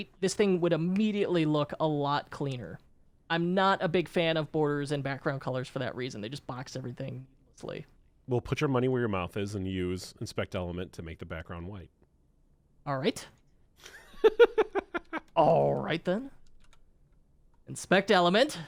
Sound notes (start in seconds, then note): 13.8 laughs